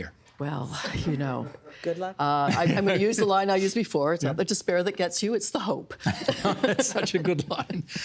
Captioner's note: laughter